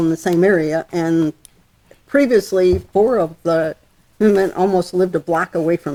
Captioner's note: voice muffled